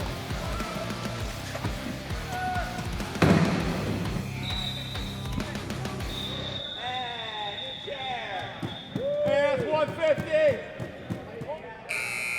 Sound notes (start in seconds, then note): 5.9 ref blows whistle; 11.8 buzzer sounds